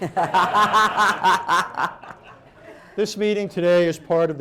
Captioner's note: laughter